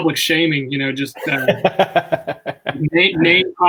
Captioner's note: laughs